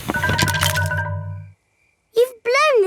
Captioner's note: blowing